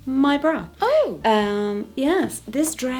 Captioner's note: voiceover